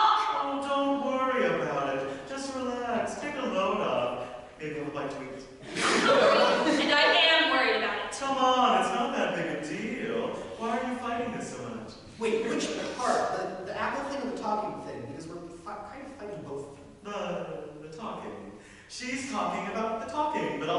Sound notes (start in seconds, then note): 5.6 audience laughter